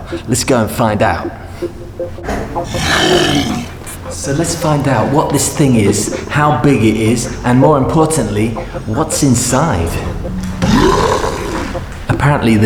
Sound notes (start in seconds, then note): 2.6 roar; 10.3 roar